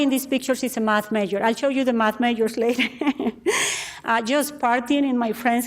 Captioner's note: laughs